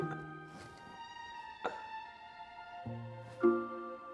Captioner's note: blanket rustles